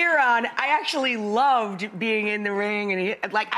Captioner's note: stammers